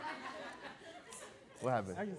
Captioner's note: audience laughing